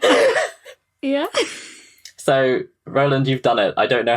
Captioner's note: laughing